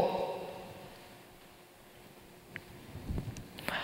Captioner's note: silence